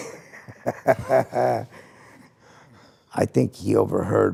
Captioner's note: person laughing